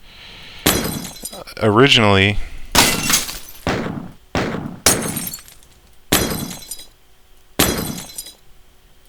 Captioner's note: shots and glass shattering